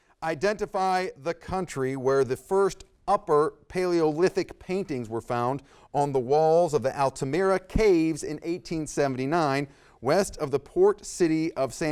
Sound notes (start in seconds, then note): none